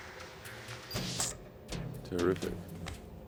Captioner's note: bleeps, screen closes